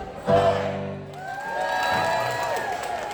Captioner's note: applause